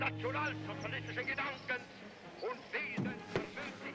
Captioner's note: speaking german